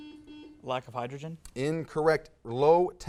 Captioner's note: buzz